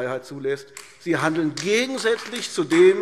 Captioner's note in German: Beifall AfD